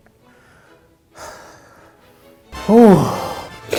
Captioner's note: sighing